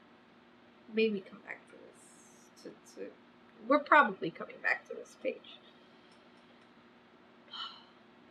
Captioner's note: exhales loudly